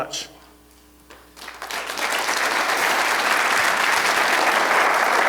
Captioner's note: applause